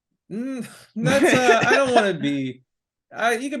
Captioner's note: laughing